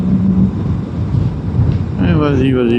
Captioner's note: engine